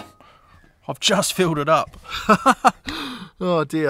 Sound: chuckles

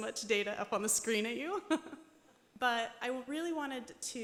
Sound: laughs

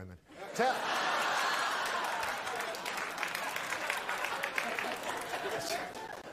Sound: audience laughs, applauds

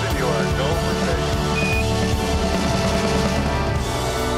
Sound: device beeps

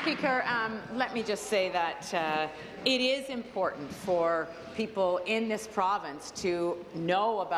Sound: some Applause

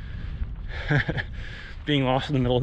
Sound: nervous laughter

